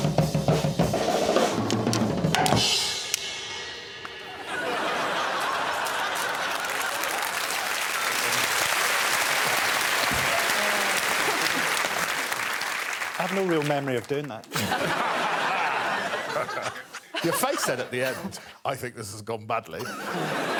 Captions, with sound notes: [laughing and applause] I have no real memory of doing that. Your face said at the end I think this has gone badly.